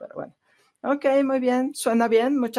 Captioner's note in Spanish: a través de intérprete